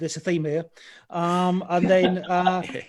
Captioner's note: laughs